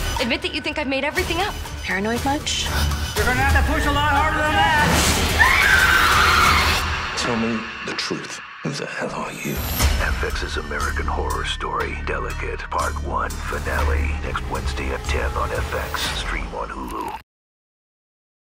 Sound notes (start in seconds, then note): 5.2 screaming